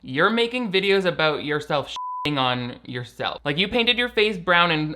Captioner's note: beep